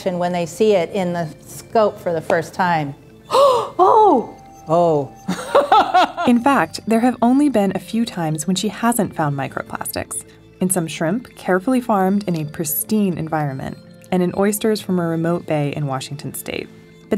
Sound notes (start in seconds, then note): 3.2 gasping; 4.6 laughing